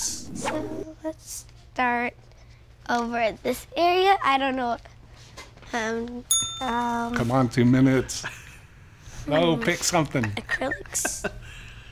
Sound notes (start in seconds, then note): 6.3 ding